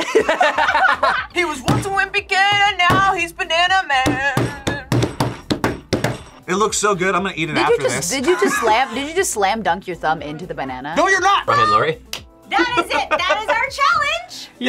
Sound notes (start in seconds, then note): 0.0 both laugh; 7.7 laughs